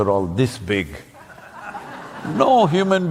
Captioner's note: few laugh